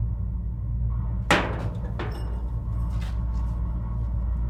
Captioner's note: metal rattling